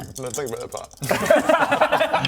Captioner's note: unsympathetic laughter